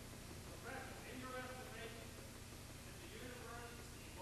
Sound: speaks faintly

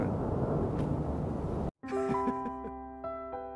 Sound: quiet laughter and piano music

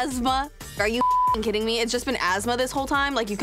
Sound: beeps

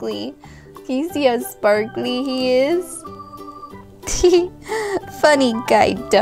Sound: laughs

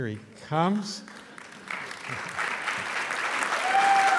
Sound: applause

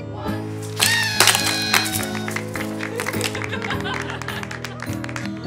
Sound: party horn, laughter, applause

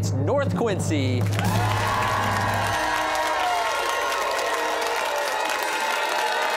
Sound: cheers and applause

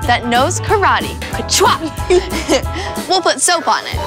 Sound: chuckles

